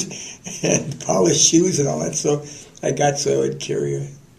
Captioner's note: laughter